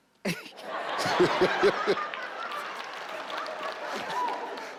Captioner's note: everyone laughs